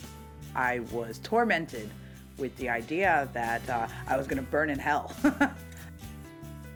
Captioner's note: laughs